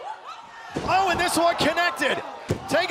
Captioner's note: crowd cheering